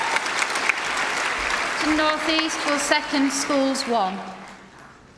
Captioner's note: applause